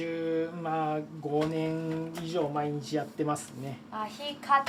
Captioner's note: speaking Japanese